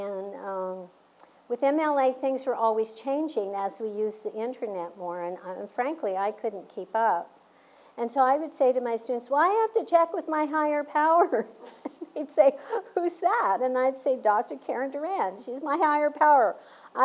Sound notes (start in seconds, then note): 11.3 laugh